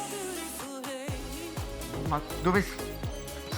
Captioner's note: spacecraft sounds